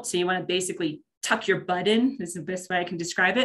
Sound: none

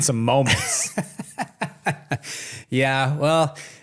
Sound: laughs

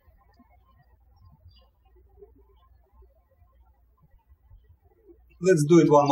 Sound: birds chirping

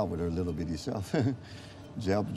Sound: laughs

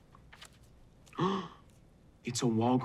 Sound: gasps

